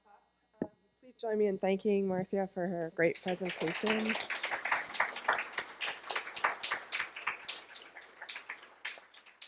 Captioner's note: applause